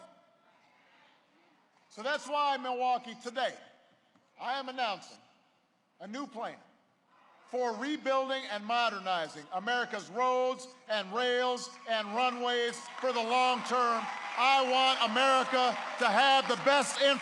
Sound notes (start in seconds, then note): 14.0 applause